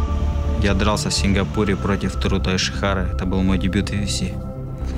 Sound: speaking Russian

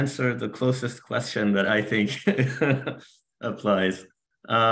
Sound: laughs

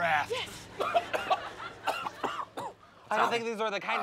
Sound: coughing

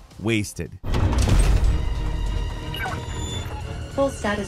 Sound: mecha clanging

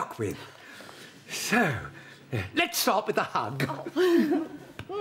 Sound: laughs

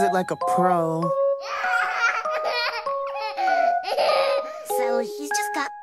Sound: laughs

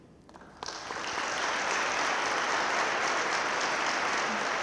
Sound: audience claps

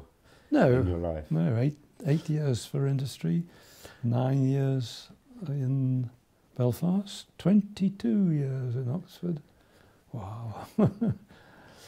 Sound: laughs

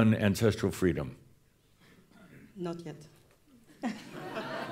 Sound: some chuckles

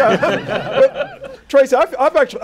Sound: laughter

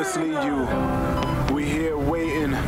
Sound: medical equipment beeping

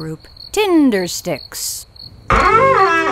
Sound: crickets chirp; door creaks

